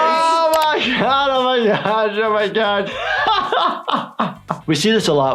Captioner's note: laughs